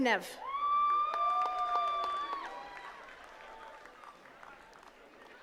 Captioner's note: attendees cheering and clapping